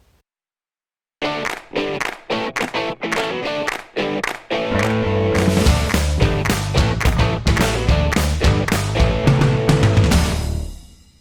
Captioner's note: claps